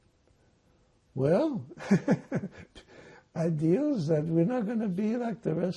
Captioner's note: laughing